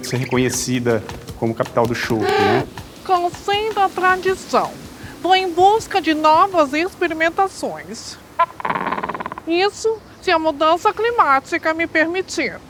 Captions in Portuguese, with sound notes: ser reconhecida como a capital do chopp. Contendo a tradição. Estou em busca de novas experimentações. [grasnado de pinguim] Isso se a mudança climática me permitir.